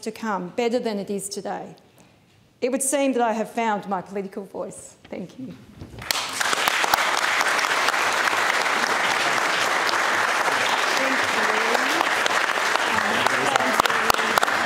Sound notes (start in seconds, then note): 5.6 applause